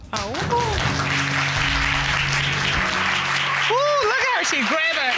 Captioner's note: applause